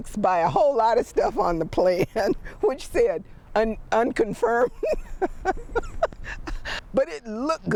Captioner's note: laughs